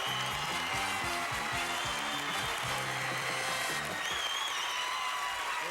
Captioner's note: audience applauding